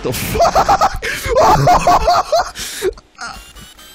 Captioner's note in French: Rigole intensément